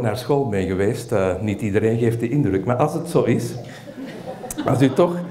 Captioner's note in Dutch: gelach